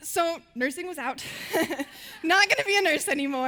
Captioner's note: laughing